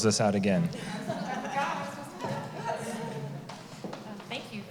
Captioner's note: laughter